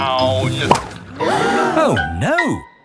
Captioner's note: all gasp